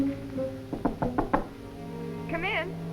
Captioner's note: door knocks